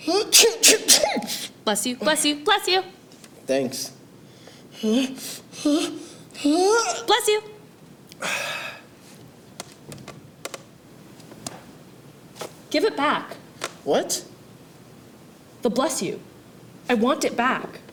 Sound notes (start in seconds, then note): 0.0 sneezes three times; 4.5 winding up to sneeze; 8.2 exhales